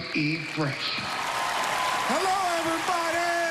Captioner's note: cheering and applause